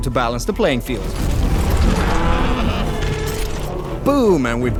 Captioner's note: screeching